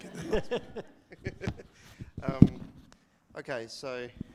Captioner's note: audience laughing